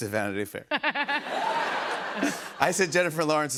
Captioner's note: laughter